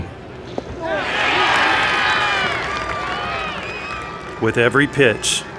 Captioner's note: cheering